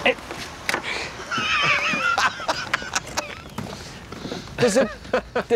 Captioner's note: laughs